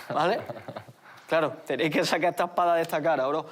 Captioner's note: laughter